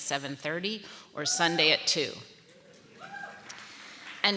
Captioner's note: audience applauding; audience cheering